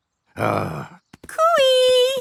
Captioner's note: grumbles